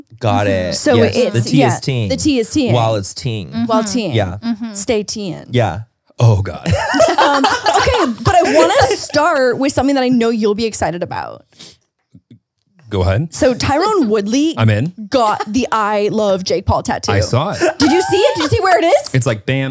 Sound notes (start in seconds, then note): 6.6 everyone laughs